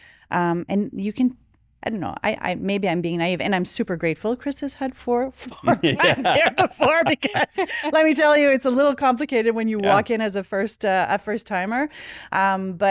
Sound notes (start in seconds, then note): 5.4 laughing; 5.5 laughs